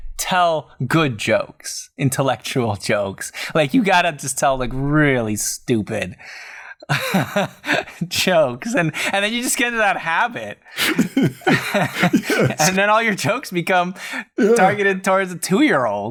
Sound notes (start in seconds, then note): 6.9 laughter; 10.8 laughter